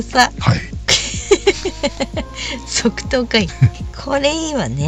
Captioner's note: laughs